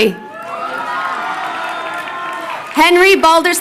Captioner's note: crowd cheering